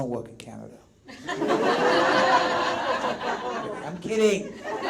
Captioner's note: audience laughs out loud